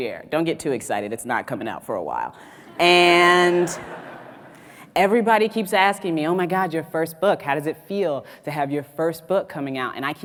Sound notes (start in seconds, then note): 2.4 audience laughs